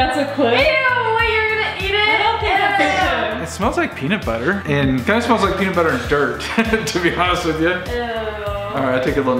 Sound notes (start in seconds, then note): 2.4 kids exclaiming; 5.8 laughs